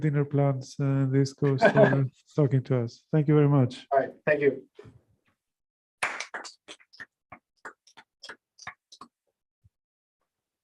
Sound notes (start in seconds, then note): 6.0 applause